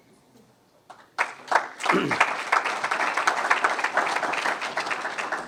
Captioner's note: audience applauds